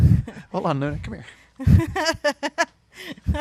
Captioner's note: laughs